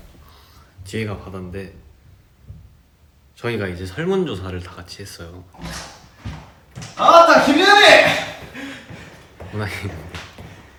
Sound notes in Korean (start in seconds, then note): 0.2 멀리서 들려오는 누군가의 힘찬 발소리; 5.6 문 열리는 소리; 8.4 숨소리